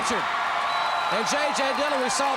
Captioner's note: crowd cheering